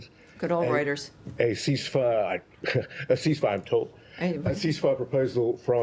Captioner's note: laughter